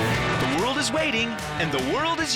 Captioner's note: plane engine roars